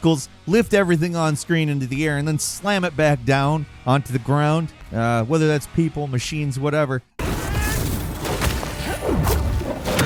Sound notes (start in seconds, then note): 7.3 explosion booms; 8.3 tentacles squelch